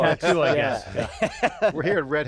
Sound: laughs

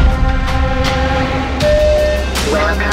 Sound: bell tone

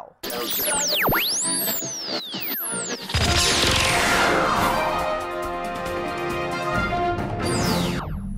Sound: sound Effects

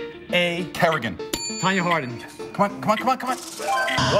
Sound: bell dings

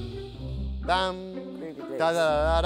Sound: hums groovy blue ringtone

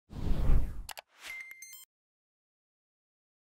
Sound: air whooshing

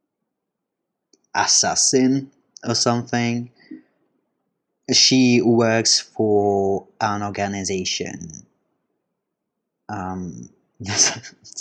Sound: chuckle

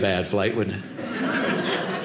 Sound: audience laughing

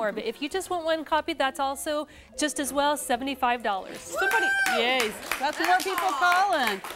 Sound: �cheering and applause�

